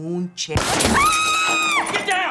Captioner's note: glass shattering; gunshot booming; Maria screaming